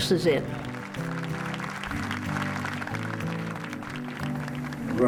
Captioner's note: clapping noise